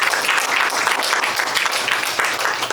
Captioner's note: applause